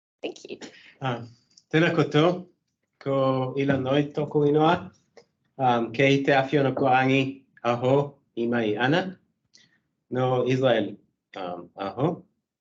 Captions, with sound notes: Thank you. [speaking in te reo Māori] Tēnā koutou. Ko Ilan Noy tōku ingoa. Kei Te Āwhionukurangi ahau. E mai ana. Nō Israel ahau.